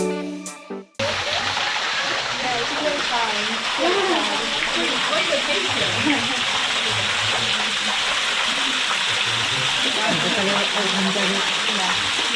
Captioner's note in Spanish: ruido de agua